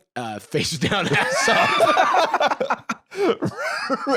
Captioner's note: both laughing